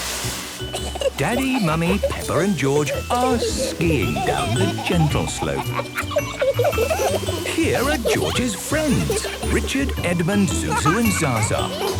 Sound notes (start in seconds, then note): 5.3 kids laughing